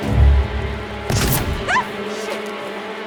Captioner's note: dramatic music; gun booming